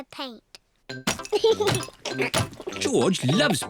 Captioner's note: giggles